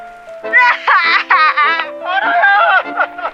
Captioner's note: wailing